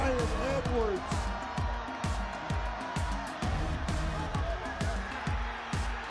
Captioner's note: crowd cheering; upbeat rock music